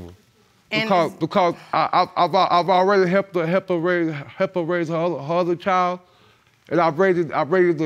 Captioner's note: stammering